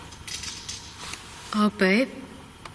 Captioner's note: distant clicking